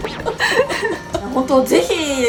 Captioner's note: haha